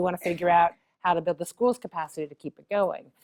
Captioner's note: cough